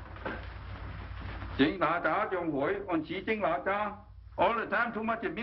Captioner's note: speaks in Chinese